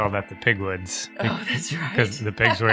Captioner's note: laughing